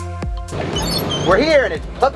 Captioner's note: doors open